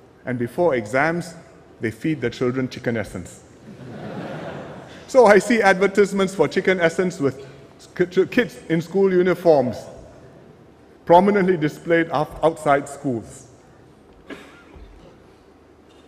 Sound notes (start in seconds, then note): 3.6 laughter